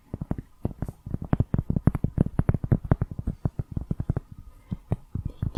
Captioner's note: tapping on cork